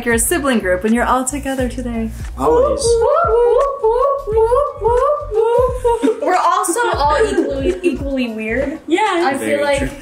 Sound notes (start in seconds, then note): 4.0 whooping